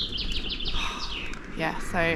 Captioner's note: sigh